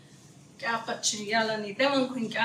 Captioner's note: speaking Zuni